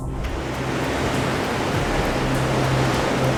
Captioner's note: wind and wave sounds with music